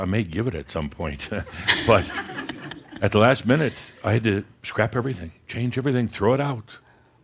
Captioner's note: some chuckles